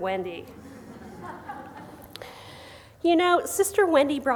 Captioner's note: gentle laughter